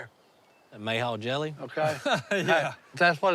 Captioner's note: chuckles